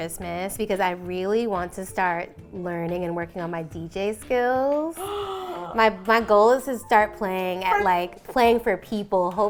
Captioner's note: gasps in delight